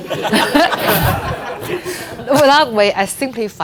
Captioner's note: audience laughing